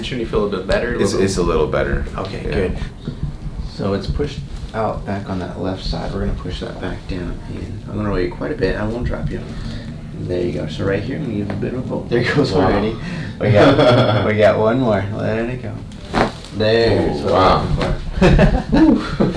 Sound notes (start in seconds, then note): 12.8 patient sighs; 13.8 patients laughs; 15.8 cracking noise; 18.0 patient laughs